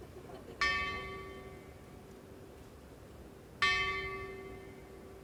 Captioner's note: bell ringing